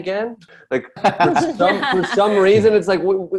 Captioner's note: Desi & Ronny laugh